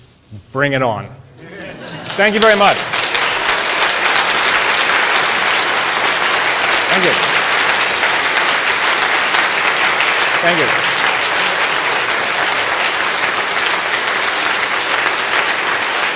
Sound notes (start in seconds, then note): 3.4 applause